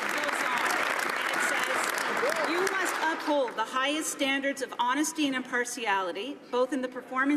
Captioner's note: some Applause